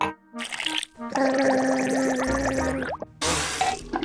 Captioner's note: gargles